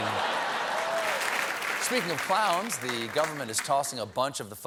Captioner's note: applause